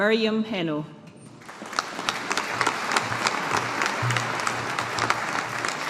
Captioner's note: audience applauding